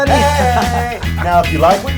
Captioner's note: laugh